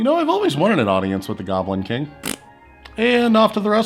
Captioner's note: splats